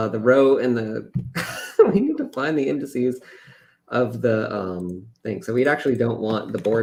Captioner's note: laughs